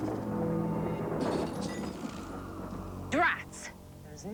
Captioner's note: glass shatters